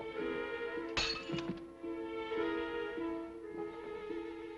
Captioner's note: object clatters